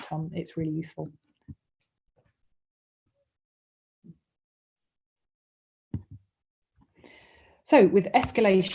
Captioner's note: silence